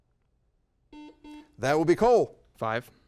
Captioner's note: double beep